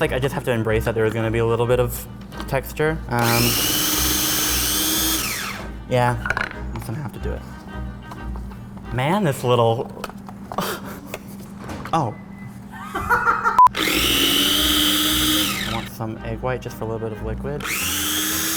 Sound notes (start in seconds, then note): 3.2 machine whirs; 10.5 chuckles; 12.7 man laughs